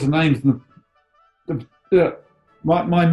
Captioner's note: stammers